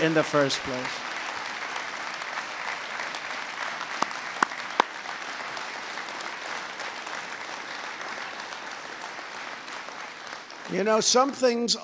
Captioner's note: applause